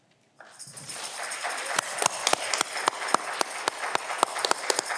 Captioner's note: audience clapping